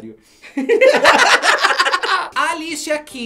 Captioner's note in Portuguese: risos